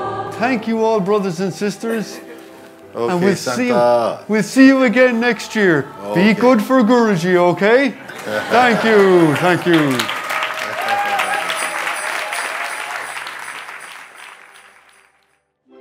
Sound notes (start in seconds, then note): 10.8 and sangha laugh; 12.4 applause